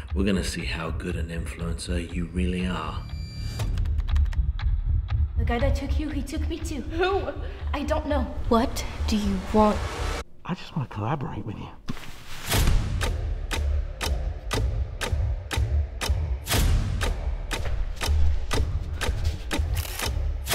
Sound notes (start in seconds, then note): 3.8 tense suspenseful music; 12.4 dramatic suspenseful music; 12.7 clock ticks